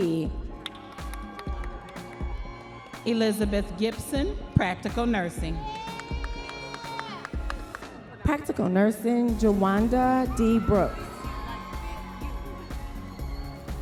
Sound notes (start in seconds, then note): 0.6 audience members applauding